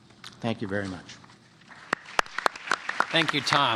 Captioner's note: applause